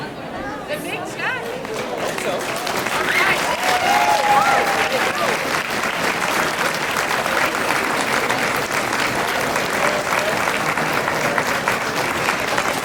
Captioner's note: clapping